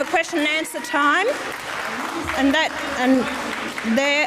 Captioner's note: audience applauds